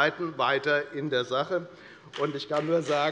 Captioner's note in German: Beifall bei der FDP und bei Abgeordneten der SPD